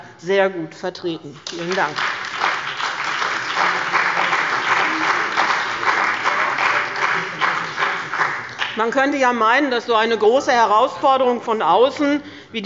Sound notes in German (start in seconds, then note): 1.4 Beifall bei dem BÜNDNIS 90/ DIE GRÜNEN und der CDU